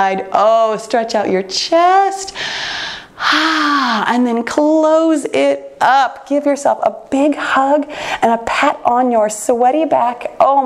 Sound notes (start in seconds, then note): none